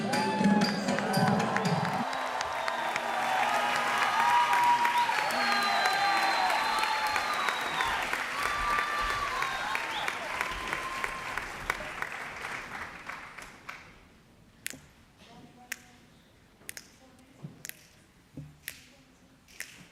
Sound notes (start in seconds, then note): 0.8 applause; 14.7 snapping